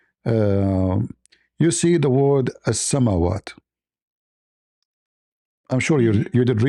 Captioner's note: Arabic